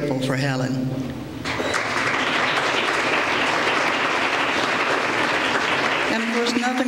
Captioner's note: applause